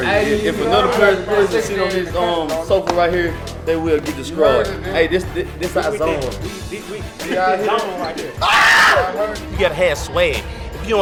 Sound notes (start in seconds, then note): 8.4 screaming